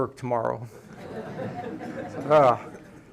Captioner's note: laughter